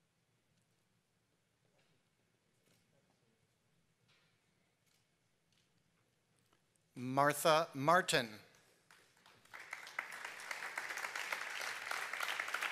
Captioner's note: applause